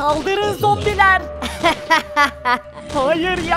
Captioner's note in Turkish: Gülme sesi